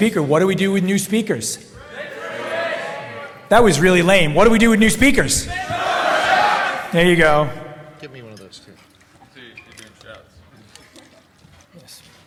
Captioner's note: shouting